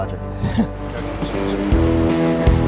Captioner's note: chuckles